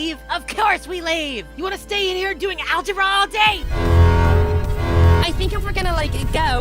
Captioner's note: none